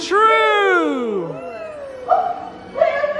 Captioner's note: crowd cheering